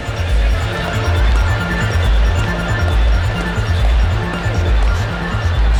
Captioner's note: party sounds intensify